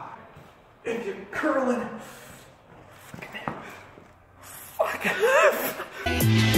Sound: laughs

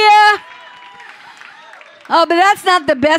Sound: cheering and clapping; crowd

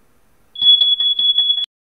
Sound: fire Alarm Beeping

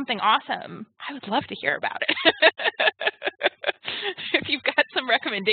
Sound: laughs

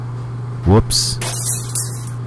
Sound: glass shatter

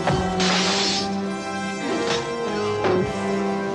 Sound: hitting; weapon clanking

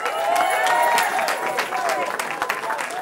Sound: cheering

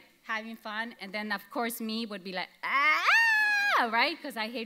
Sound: yells

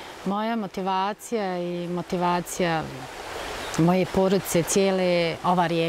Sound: speaking in foreign language

